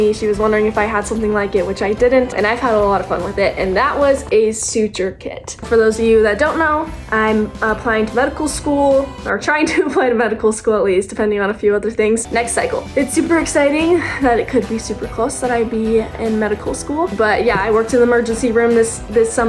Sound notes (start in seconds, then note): 8.7 laughing